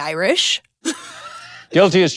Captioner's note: Kathryn laughs